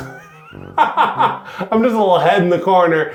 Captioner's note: laughs